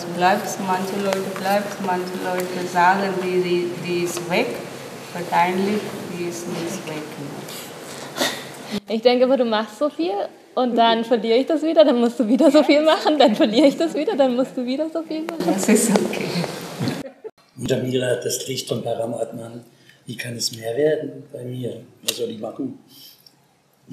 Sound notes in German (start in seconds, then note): 16.0 lachen